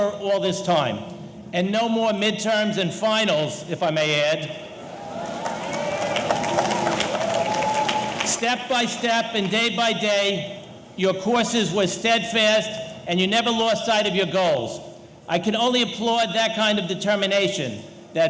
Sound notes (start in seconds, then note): 4.8 audience cheering; 4.8 audience applauding